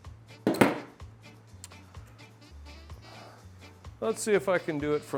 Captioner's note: tool clunks on table